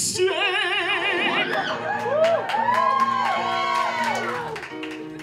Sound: applause

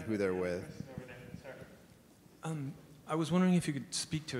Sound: faintly speaking

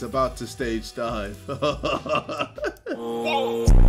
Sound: laughs

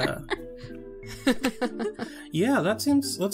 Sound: laugh

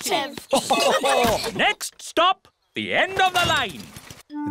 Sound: laughter

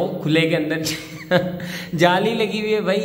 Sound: chuckles

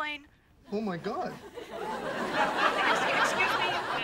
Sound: audience laughing

